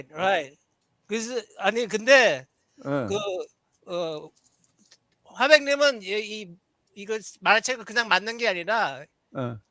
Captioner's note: non-english speech